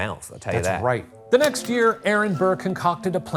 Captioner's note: projector clicking